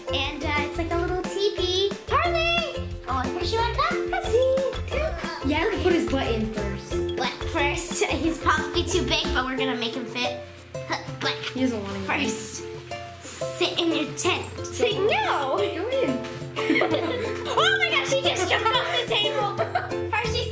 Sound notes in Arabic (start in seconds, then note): 16.6 وكلاهما يضحك